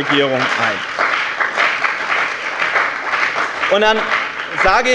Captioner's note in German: Lebhafter Beifall bei dem BÜNDNIS 90/DIE GRÜNEN und der CDU